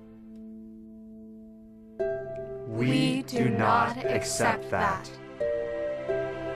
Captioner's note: all speaking in unison